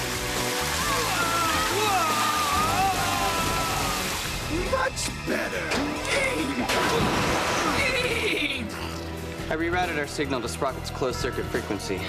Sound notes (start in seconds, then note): 5.6 whinnying laugh